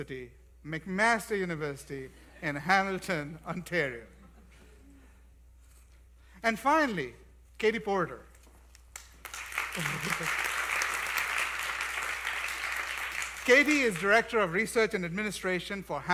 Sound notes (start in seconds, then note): 8.8 applause